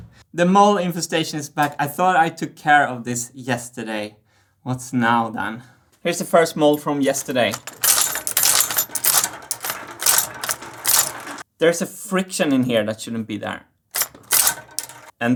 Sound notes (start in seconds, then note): 7.8 several marble drops